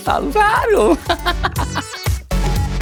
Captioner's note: laughter